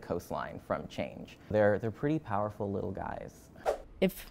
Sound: whoosh

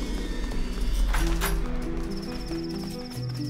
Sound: foot steps; door opens; crickets

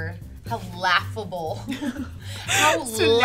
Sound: both laughing

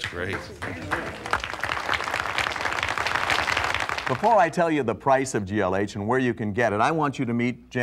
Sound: applause

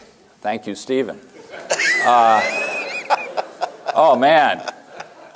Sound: laughter

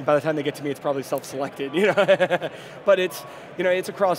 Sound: laughing

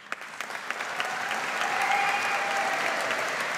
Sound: audience applauds

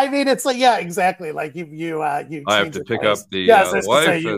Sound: lowers voice

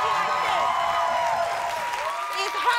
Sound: audience clapping

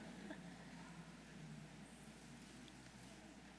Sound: none

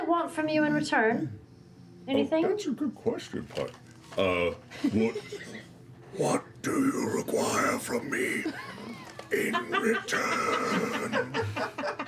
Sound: whispering

